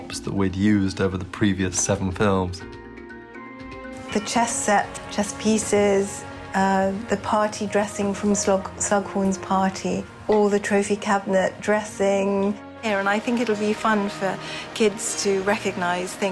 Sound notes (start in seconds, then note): none